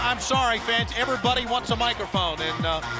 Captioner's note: crowd cheering